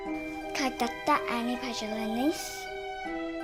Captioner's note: Russian